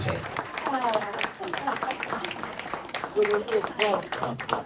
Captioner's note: speaking in French; applauding